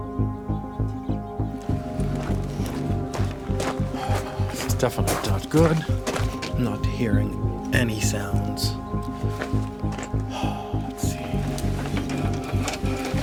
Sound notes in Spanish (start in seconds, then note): 3.9 Suspiro; 10.3 Suspiro